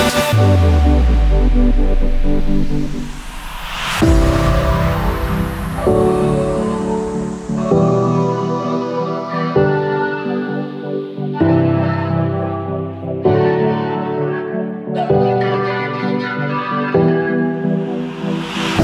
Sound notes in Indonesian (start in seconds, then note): 4.0 Vocoder